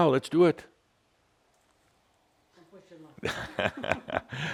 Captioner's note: they chuckle